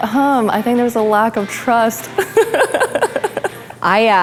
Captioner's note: laughs